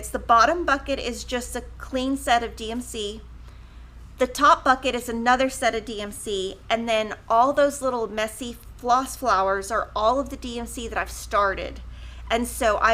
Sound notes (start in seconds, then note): none